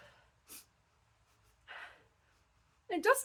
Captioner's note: sniffing